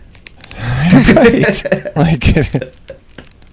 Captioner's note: laughter